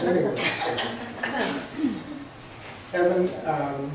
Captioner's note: laughs